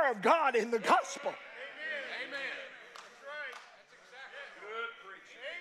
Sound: congregation cheering

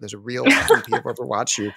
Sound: laughs

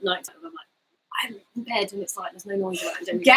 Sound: speaks quietly

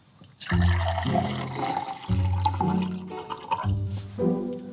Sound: water gurgles loudly

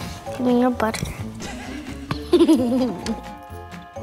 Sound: laughs

